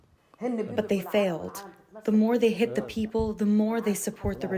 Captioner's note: through translator